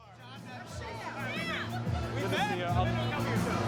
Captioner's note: crowd chattering